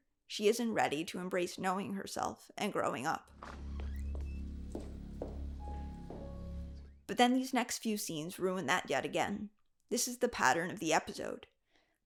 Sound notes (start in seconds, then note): 3.3 door swings open; 4.9 boots clacking on hallway